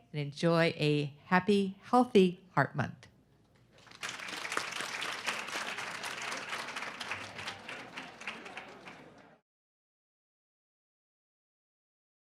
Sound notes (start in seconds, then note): 3.6 audience clapping